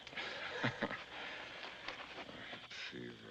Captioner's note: chuckles